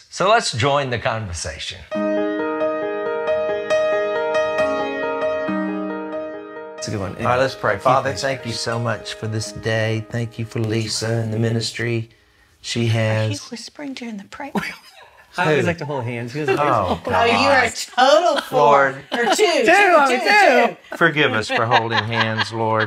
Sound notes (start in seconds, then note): 2.1 soft piano music; 14.1 whispers